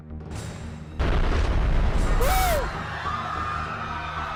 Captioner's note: sound of explosion in the distance and panicking crowd